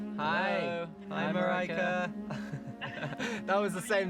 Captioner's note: laughing